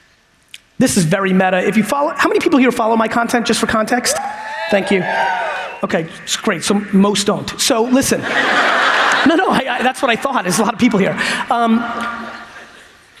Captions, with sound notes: This is very meta. If you follow, how many people here follow my content just for context? Thank you. Okay, that's great, so most don't. So listen. (audience laughs) No, no, I, that's what I thought is a lot of people here.